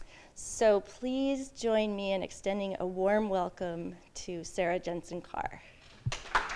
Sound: applause

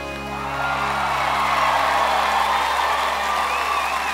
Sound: audience cheering

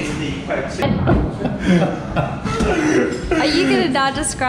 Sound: laughing

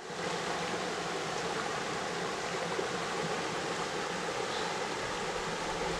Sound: running water

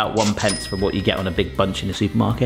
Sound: bell dings

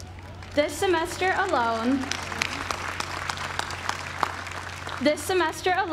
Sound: applause

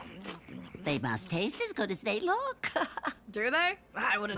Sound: laughing

